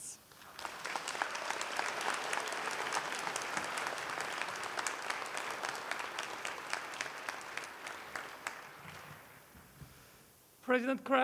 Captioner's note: applause